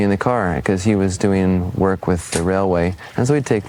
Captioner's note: projector sound